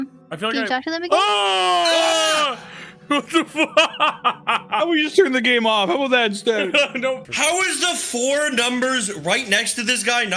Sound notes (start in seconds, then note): 1.1 yell; 3.0 laugh